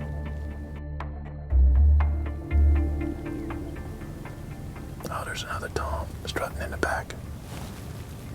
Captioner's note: whispering